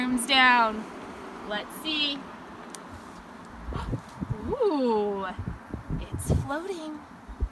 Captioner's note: gasps